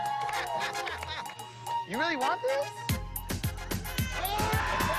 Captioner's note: cheering